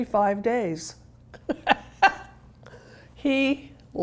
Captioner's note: Carol laughing